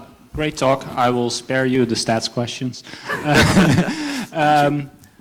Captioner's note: laughs